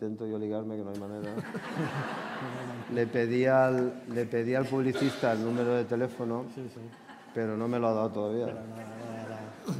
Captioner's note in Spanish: Risas